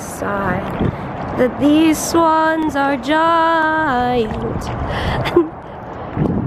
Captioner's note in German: Lacht